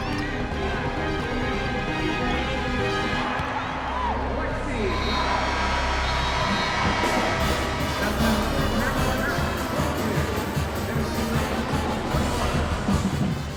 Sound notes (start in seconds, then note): 5.3 buzzer